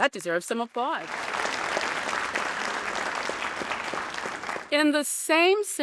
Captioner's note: audience applauding